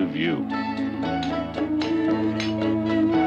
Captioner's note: pounding